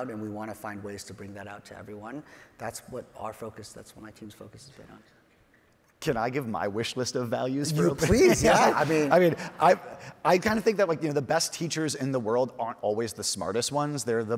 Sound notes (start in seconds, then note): 7.8 laughs